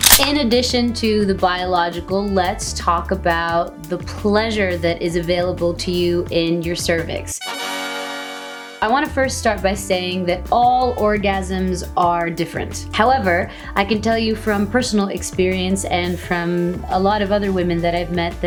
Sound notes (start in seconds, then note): 7.4 ta Da horn sound